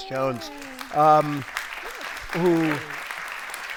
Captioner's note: audience applauds